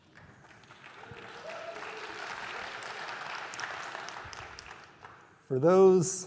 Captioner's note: applause